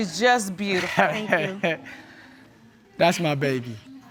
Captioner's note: laughs